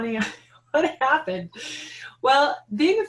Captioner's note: laughing